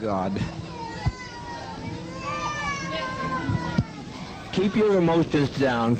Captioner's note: babies crying